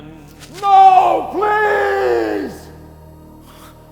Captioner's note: Van Helsing yelling